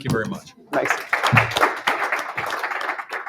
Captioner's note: applause